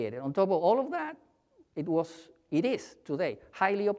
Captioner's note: none